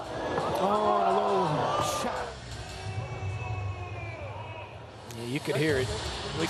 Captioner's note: audience boos